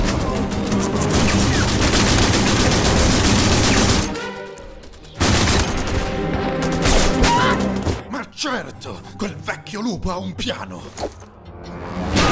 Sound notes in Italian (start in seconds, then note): 7.2 Wilhelm Scream